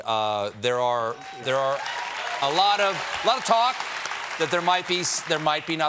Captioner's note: cheers and applause